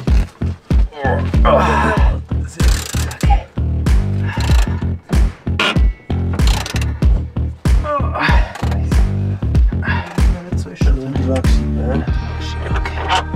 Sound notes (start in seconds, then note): 0.6 groaning